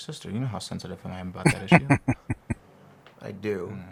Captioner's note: chuckling